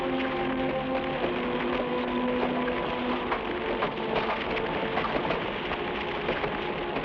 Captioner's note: branches smack; flames crackle